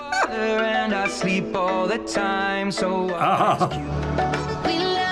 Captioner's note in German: lacht; kichert